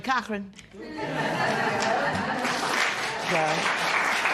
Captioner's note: laughter